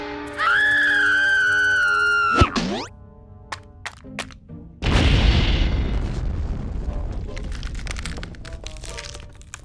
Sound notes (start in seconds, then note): 0.2 screams